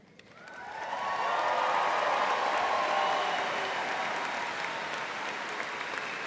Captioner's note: audience applauding and cheering